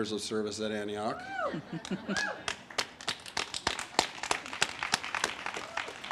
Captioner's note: audience applauds and cheers